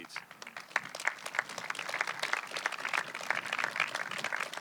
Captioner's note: audience clapping